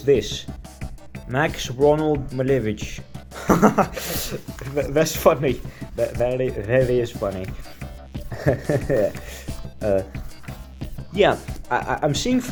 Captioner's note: laughs